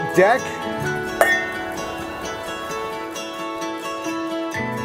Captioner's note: glasses clinking